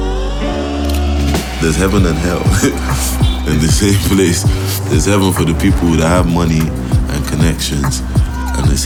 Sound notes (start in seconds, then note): 2.7 chuckles